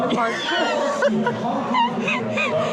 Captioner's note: laughs